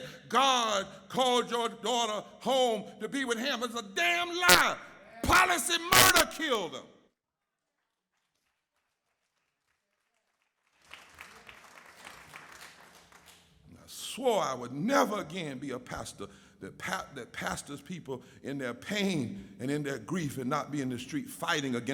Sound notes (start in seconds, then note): 8.8 audience applauds